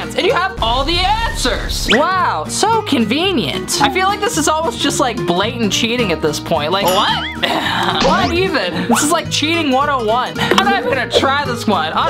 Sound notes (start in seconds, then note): 7.0 laughs